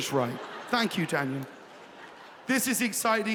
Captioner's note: audience laughing